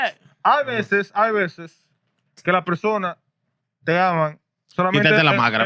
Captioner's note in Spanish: Hablando en idioma extranjero